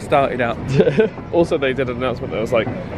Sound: laughs

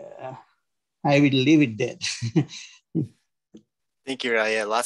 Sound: chuckles

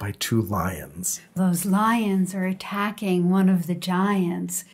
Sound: voiceover

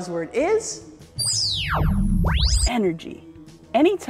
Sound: magical sound

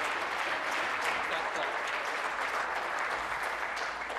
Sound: applause

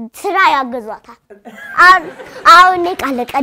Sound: laughter

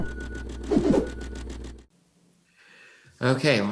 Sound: whooshing

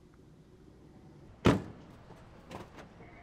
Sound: door slams

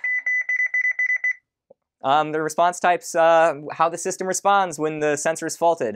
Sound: beeping

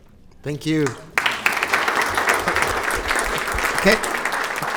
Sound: group laughs

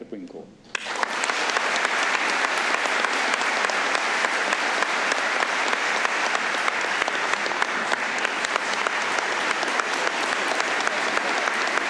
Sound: applause

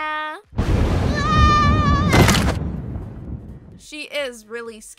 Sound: thunder; screams

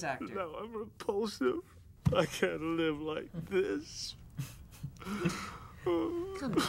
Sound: howl; laughs

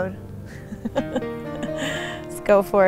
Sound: laughs

